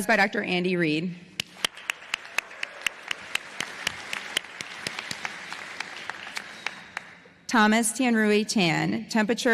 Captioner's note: applause